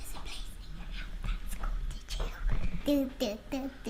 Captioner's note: child whispers